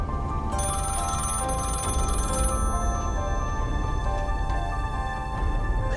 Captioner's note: tense music continues; bell ringing